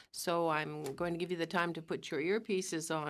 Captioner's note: speaking in french